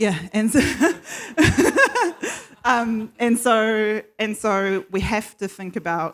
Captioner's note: laughs